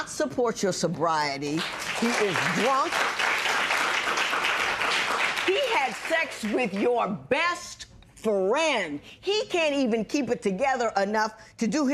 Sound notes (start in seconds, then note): 4.4 applause